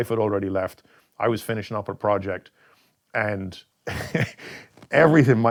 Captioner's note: laughs